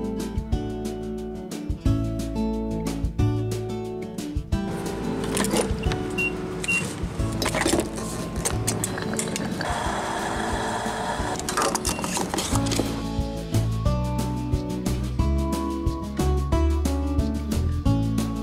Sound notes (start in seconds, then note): 4.7 gas pumping; 14.6 exciting vacationing music